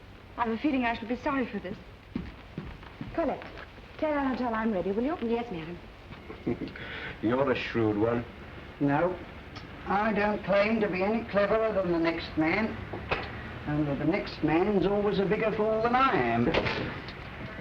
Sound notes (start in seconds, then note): 6.2 chuckles